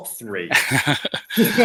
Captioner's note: laughs